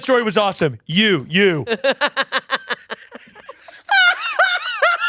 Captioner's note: laughing